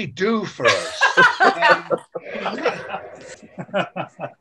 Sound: laughing

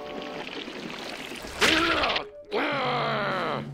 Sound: grunts; growling

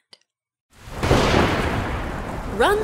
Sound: thunder

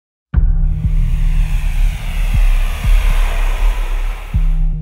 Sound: airplane engine

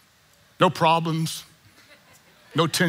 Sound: congregant chuckling

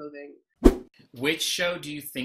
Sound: whoosh

